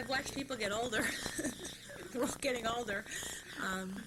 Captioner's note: laughter